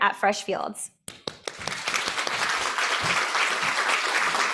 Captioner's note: applause